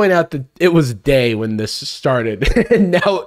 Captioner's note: chuckles